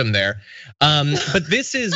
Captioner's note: laugh